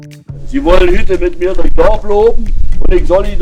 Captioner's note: Oderbruch dialect